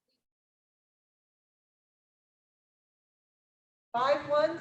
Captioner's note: speaking faintly